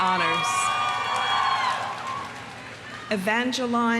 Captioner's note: audience cheering; audience applauding